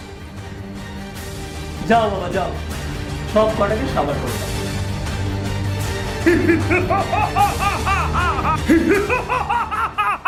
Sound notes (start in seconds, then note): 6.2 evil laugh